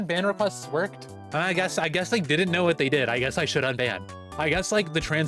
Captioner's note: sarcasm